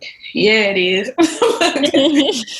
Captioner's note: laughs